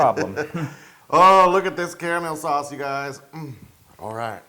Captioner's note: laugh